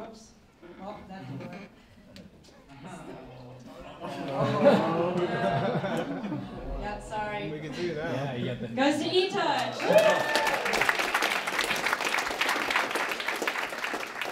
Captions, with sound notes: Oops, op that's wrong. (audience groaning) Yeah, sorry. Goes to eTouch, woo! (applause)